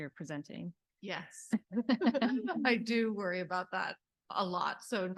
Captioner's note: laughs